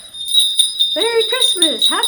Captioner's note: bells jingle